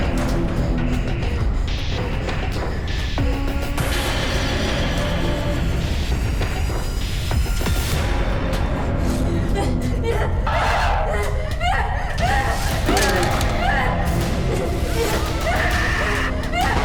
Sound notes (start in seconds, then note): 10.4 Abby shouts; 13.7 dramatic music